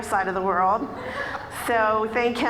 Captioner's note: audience laughing